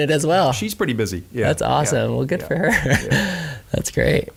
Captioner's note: laughing